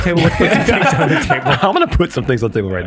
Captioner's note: group laughs